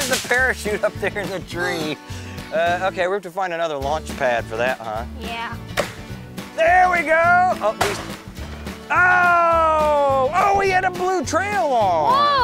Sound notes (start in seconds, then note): 5.7 firework pops; 7.7 firework pops